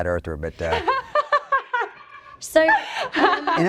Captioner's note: laughs